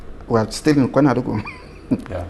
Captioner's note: laughs